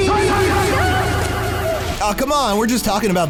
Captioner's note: screams